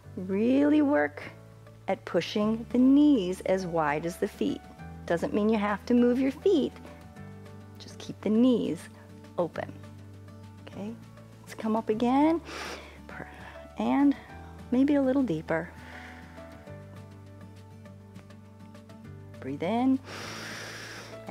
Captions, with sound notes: really work at pushing the knees as wide as the feet. Doesn't mean you have to move your feet. Just keep the knees open. Okay, let's come up again, and maybe a little deeper. [exhales] Breathe in, [inhales]